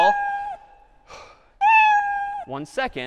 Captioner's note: cat meowing slowed down